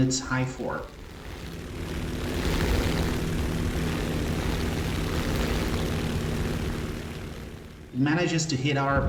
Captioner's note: aircraft Engines ,Gunfire, Flying Sounds